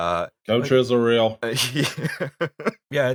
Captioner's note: laughter